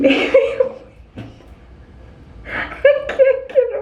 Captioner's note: laughing